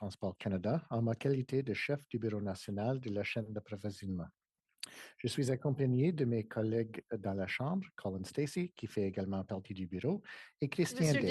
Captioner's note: speaking French